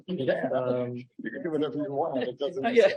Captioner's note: laughs